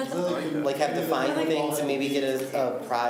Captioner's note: laughs